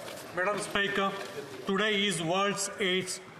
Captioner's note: speaking French